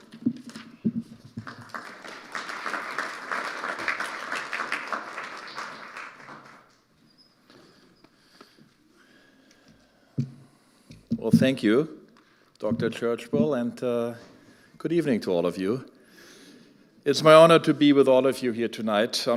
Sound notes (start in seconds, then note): 0.0 papers rustling; 1.2 audience applauding